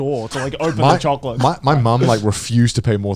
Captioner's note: chuckling